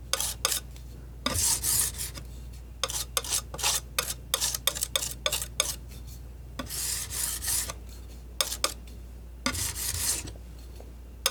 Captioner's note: metal scraping